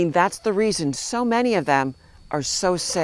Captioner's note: cry